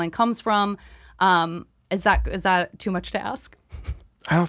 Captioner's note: she giggles